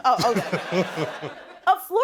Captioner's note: chuckling